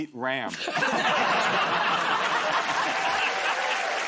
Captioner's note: laughter; cheers and applause